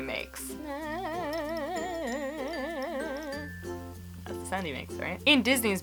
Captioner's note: quiet tarzan yell